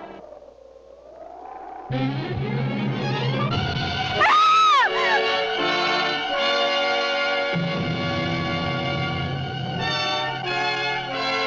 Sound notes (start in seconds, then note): 2.0 dramatic instrumental music; 4.1 screaming